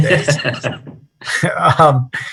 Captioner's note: laughter